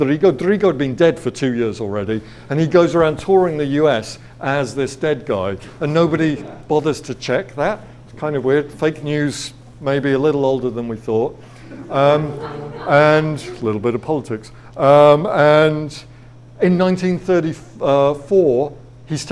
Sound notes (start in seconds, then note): 11.5 audience laughs